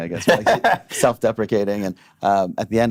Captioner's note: laughing